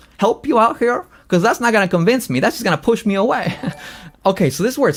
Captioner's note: laughs